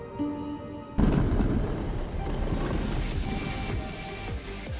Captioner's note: stones grinding